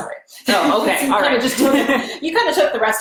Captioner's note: laughs